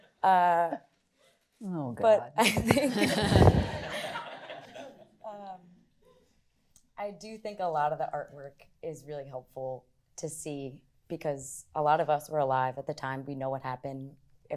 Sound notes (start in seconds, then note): 5.4 laughter